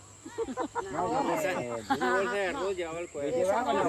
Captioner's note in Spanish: risas